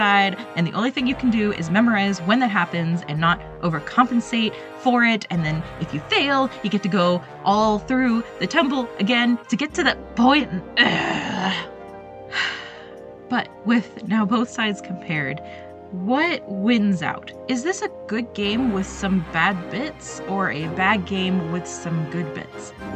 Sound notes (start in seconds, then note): 7.4 heavy sigh